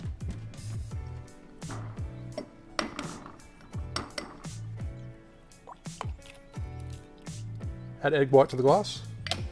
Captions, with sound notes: (glass clinking) (liquid plopping) Add egg white to the glass.